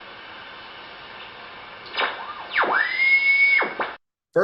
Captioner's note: radio Tuning